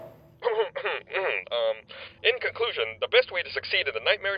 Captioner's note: clears throat